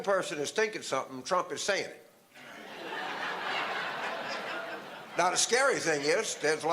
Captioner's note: audience laughter